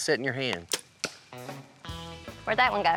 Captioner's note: arrow shot